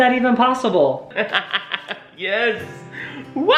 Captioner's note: laughs